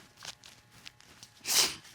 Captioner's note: sniffles